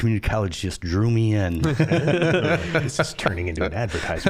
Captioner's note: all laughing